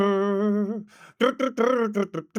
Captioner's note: humming